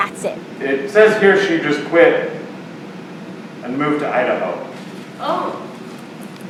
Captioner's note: on stage voice